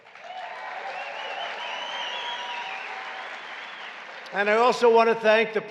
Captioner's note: applause